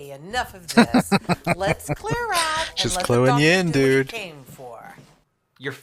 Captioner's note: laughing